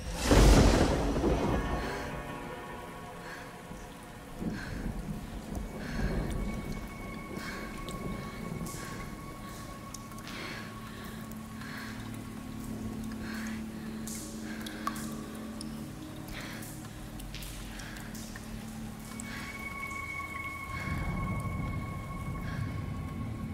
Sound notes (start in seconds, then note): 0.0 thunder cracking; 8.3 rain dripping; 20.3 suspenseful music